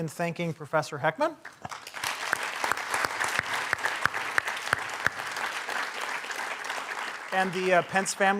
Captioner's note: applause